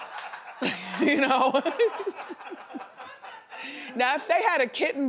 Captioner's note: audience laughs; Wendy laughs